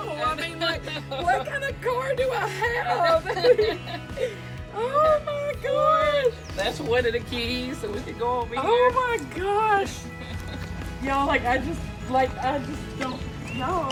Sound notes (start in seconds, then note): 2.9 laughing